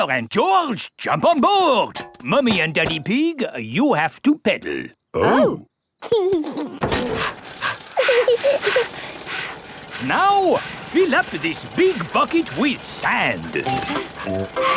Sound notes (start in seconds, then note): 6.9 mummy pig panting; 6.9 daddy pig panting; 7.0 chuckles; 8.3 peppa chuckles